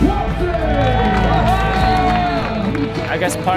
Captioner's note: crowd cheers